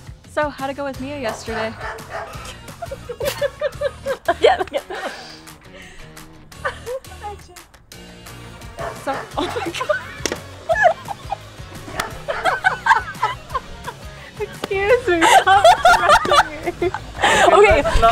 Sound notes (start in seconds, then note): 1.2 dogs barking; 1.2 laughing; 8.4 dogs barking; 10.2 laughing; 10.6 dogs barking; 12.6 laughing; 16.5 laughing